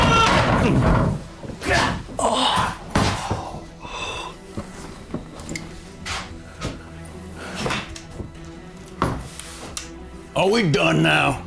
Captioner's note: screaming